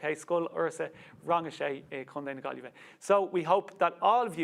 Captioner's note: speaks Irish